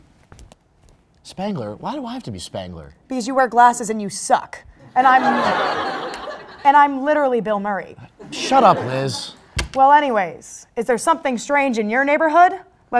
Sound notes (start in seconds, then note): 5.0 crowd Laughter